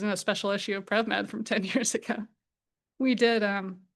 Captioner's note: chuckles